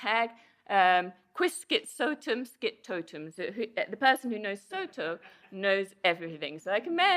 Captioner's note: non-english speech